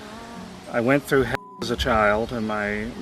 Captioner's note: beep